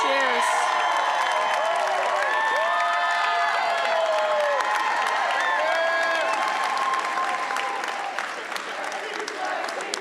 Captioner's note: crowd cheering and applauding